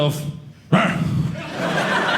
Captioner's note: grunts; audience laughing